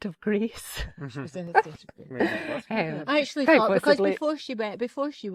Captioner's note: laughter